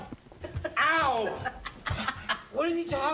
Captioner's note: laughs